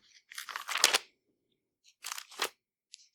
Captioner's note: none